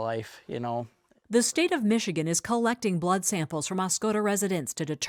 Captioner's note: voice-over